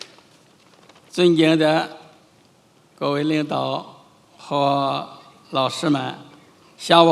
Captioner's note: chairman speaking in foreign language